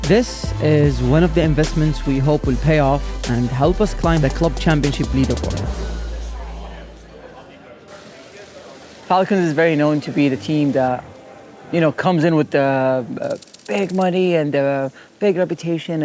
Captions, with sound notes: This is one of the investments we hope will pay off and help us climb the club championship leaderboard. [indistinct chatter] Falcons is very known to be the team that, you know, comes in with the big money and the big reputation,